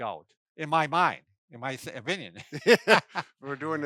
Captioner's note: laughs